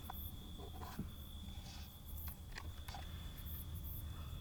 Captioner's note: box lid scrapes